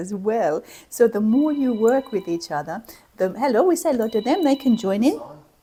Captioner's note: phone rings